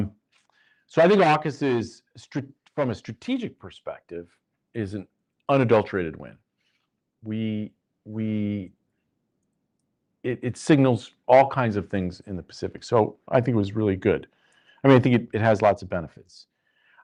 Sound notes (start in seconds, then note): none